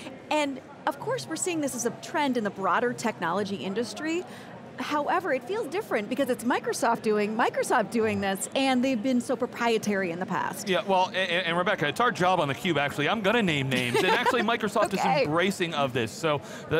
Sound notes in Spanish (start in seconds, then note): 13.7 Risas